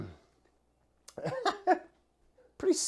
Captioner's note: laughs